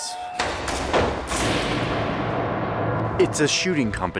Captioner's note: gun fires